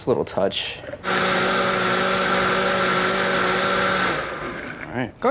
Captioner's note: blender whirring